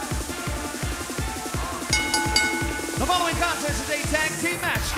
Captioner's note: bell ringing